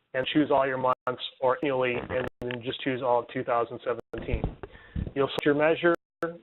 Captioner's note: phone glitches